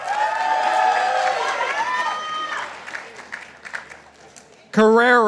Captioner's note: participants applauding